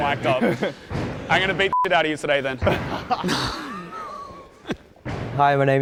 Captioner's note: beep